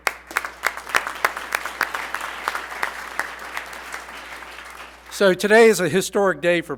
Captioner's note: applause